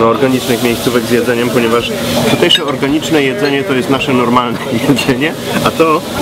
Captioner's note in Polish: śmiech